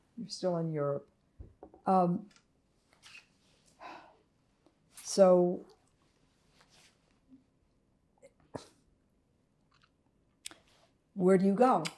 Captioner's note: pauses 6 seconds